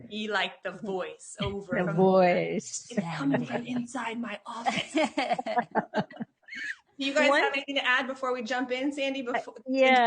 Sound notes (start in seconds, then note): 4.6 laughing; 4.7 laughs